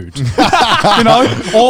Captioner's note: laughing